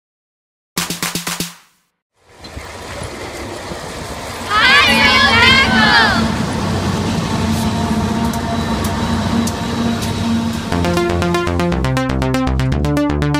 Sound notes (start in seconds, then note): 0.8 clapping; 3.1 truck and train sounds; 6.6 truck and train sounds